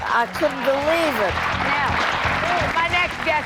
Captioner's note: audience applauding